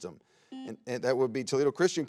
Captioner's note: buzzer beeps